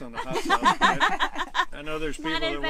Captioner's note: laughter